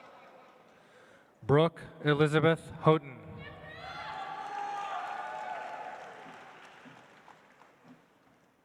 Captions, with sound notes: Brooke Elizabeth Houghton. (audience applauds)